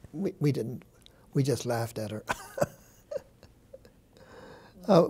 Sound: chuckles

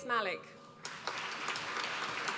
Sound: applause

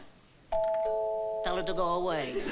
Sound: doorbell

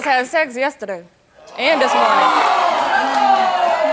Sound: audience oohing

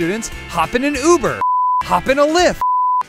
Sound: beep

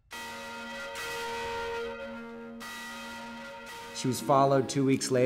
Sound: church bells ring

